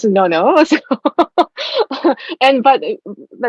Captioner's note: laughing